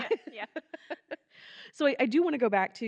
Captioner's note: laughing